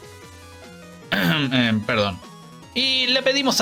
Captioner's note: coughing